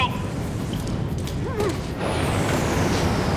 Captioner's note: Bridges whimpers